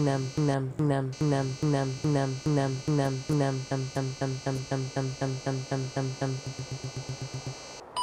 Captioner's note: error noises